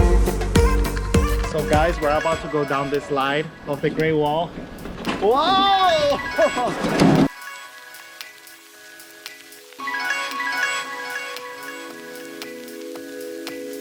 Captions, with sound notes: So guys, we're about to go down the slide of the Great Wall. Whoa! (laughing) (upbeat music)